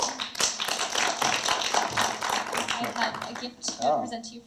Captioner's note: audience applauds